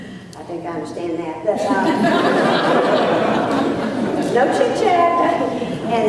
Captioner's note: laughter